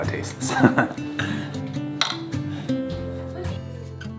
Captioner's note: chuckle